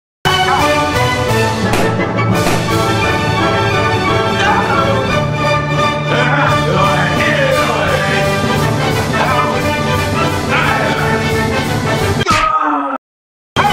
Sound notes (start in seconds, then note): 1.6 popping balloons